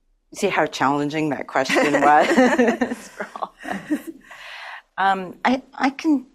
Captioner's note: audience laughs